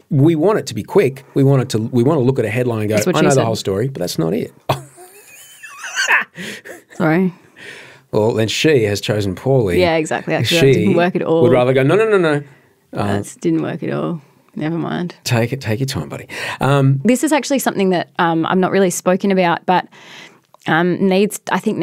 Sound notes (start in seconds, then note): 6.4 laughing